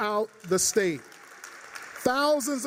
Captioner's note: applause